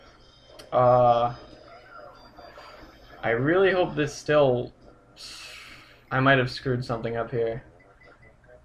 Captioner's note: sighs